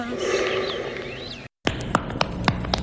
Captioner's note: singing; heavy breathing